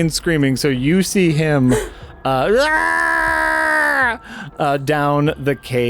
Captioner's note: screams